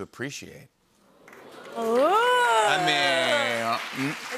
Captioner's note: audience oohs